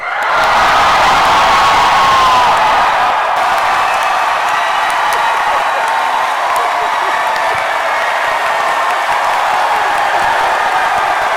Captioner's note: cheering and chanting "DM"